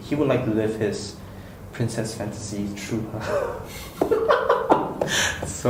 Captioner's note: laughs